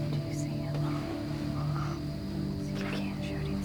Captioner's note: whispering